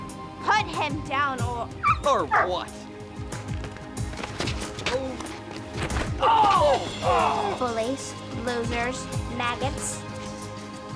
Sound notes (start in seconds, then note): 6.2 groaning